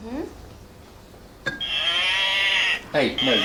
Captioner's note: mooing